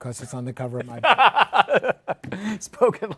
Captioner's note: laughs